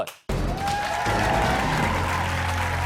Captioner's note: cheers and applause